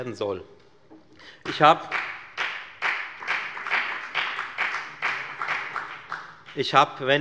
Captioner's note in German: Beifall bei der FDP